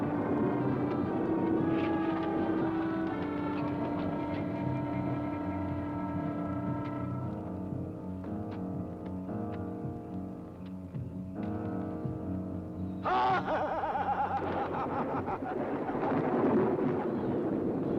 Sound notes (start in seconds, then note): 13.0 maniacal laughter